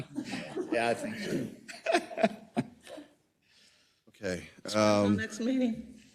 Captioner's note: laugh